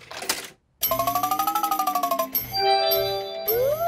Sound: beeps and chimes

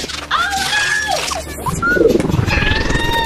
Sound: whirling sounds

